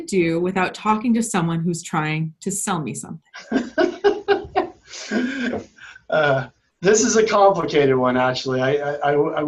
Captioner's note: laughs